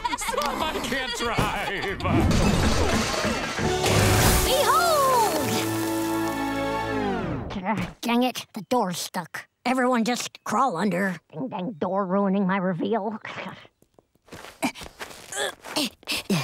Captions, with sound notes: I can't drive. [laughing] [clattering] Behold... Dang it, the door's stuck. Everyone just crawl under. Ding dang door ruining my reveal. [grunting]